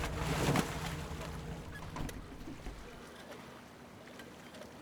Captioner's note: water splashing